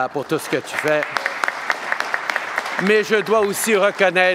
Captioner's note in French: Applaudissements